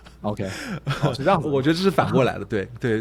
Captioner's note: laughter